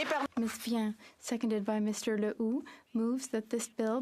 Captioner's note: applause